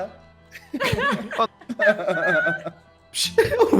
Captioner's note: laughs